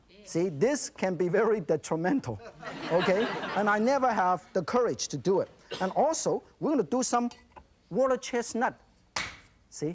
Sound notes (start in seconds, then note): 2.5 audience laugher